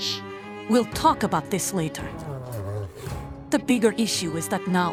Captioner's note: complaining